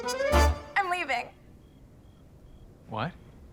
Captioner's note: cricket chirping